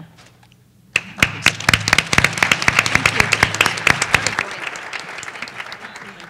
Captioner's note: applause